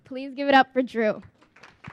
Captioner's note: applause